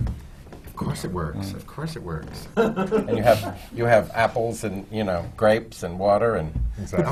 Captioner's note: laughter